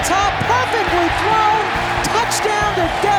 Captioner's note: crowd cheering wildly